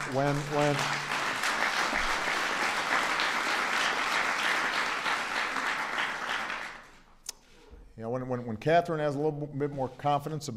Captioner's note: applause